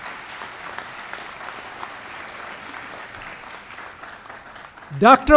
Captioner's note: applause